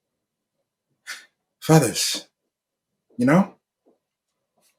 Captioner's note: breath hitches